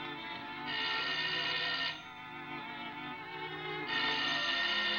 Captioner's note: phone ringing